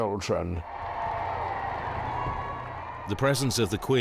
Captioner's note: crowd cheering